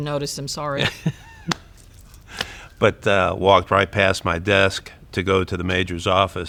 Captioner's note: laughs